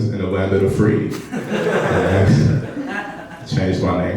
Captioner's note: laughing